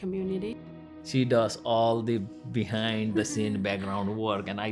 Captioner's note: laughs